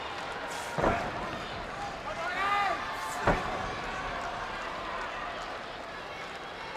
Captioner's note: wrestlers grunting; blows thudding; wrestlers grunting